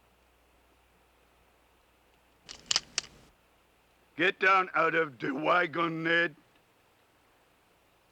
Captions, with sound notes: [cocking the gun] Get down out of da wagon, Ned!